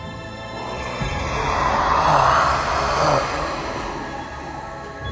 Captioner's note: tense music; vampire hissing